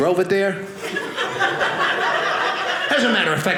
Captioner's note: audience laughing